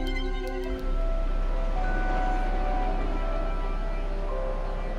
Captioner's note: airplane flying